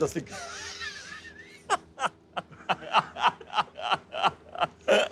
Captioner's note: laughs